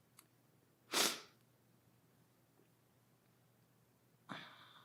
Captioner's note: sniffles